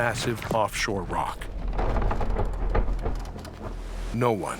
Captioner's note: boat creaking